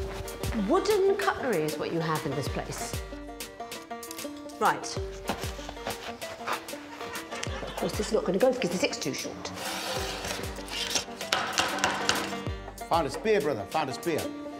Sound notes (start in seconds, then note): 5.4 wooden knife clattering; 6.6 sponge tearing; 6.6 upbeat music; 12.4 broom clattering against pipe